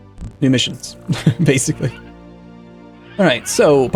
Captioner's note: laughing